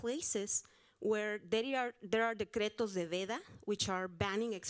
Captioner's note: audience member speaking Spanish